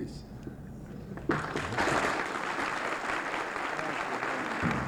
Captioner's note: applause